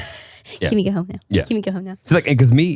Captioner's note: laughs